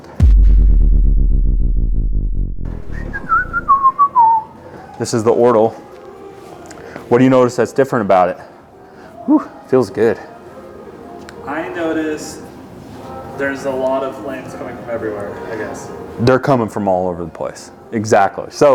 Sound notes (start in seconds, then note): 0.0 electric bass tune; 2.7 whistles